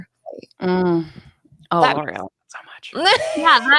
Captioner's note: talks quietly